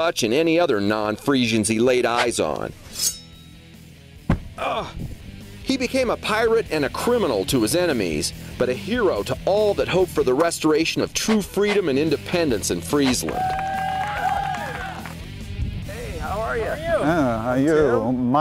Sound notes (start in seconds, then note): 4.2 thudding; 13.1 cheers and applause